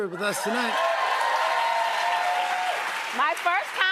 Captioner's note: cheers and applause